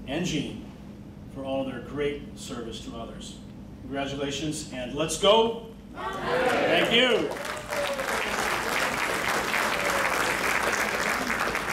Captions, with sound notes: and Jean, for all of their great service to others. Congratulations and let's go (crowd yelling Mountaineers) Thank you. (crowd clapping)